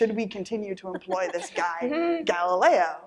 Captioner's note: laughter